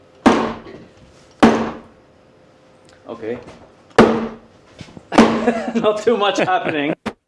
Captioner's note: hammering sounds